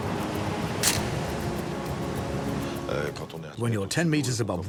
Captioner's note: camera snapping